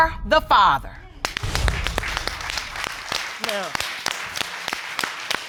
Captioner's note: audience applauding